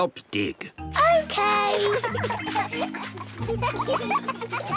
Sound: giggling

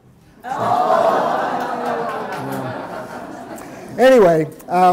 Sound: audience laughing

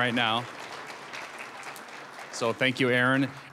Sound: applause

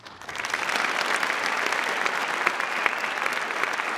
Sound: applause

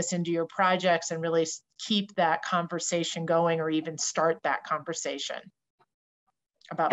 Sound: talking

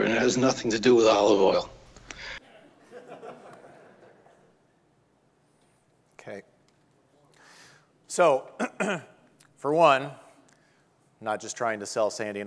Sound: audience laughing

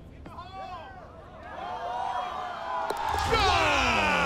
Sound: cheering

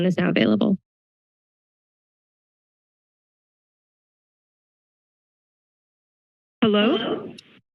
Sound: silence

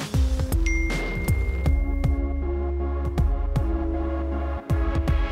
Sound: phone dinging

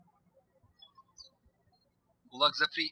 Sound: birds chirping

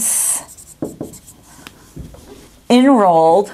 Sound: sounds of marker writing

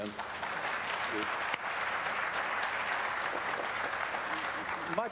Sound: applause

